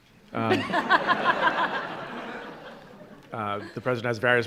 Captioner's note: laughter